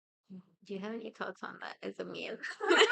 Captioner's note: everyone laughs